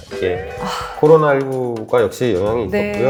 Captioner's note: sighs